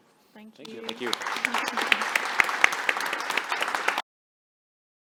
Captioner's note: audience applauding